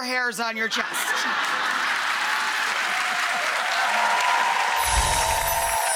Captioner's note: audience laughing and clapping